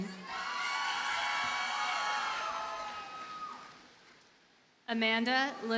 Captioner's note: audience cheers and applauds